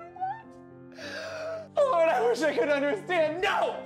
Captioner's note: sobbing